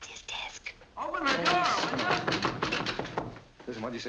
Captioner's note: pounding